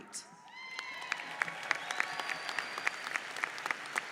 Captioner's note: audience applauds